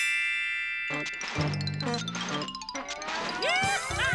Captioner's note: hoobmobile starting; whooping